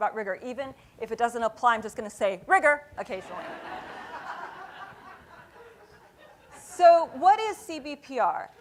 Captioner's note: laughter